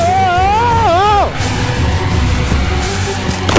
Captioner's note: screams